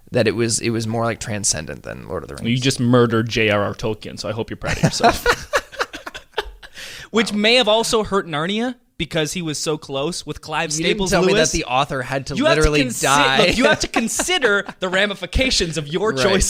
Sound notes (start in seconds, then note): 4.7 laughing